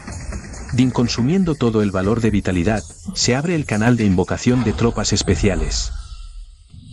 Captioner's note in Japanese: 効果音